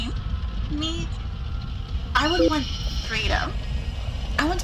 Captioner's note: distorted voice; A Beep, Static Plays